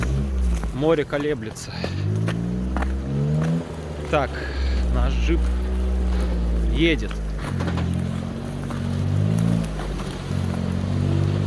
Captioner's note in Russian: Звук рёва мотора